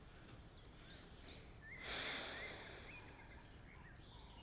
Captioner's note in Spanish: Robyn inhala profundamente